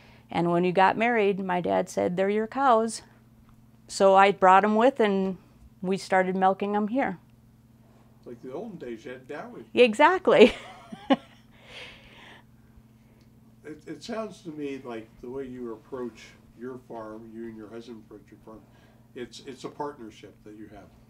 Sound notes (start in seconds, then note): 10.4 laughs